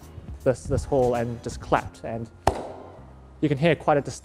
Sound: claps once

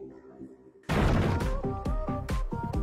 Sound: door Kicking

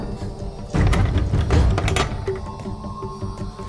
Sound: lock sound

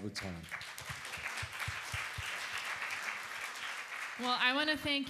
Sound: applause

